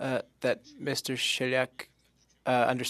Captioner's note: speaking French